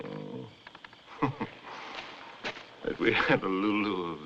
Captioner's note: chuckles